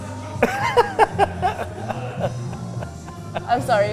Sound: laughing

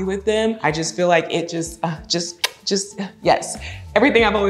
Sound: smooches

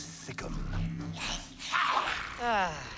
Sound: snarling

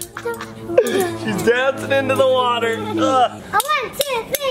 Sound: laughs

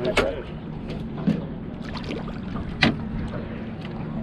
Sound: fish splashing

